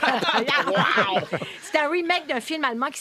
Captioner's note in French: rires